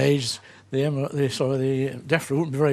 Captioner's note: stammers